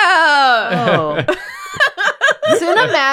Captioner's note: laughter